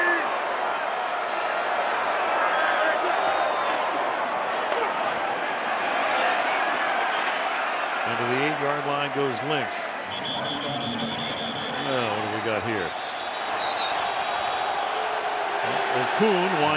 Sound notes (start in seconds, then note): 10.0 whistle